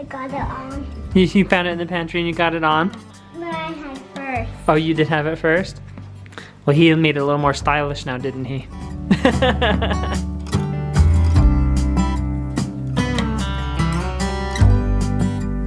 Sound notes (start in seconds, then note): 9.1 laughs; 10.4 instrumental country music